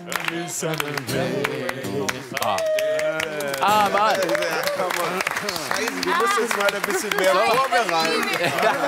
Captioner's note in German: Applaus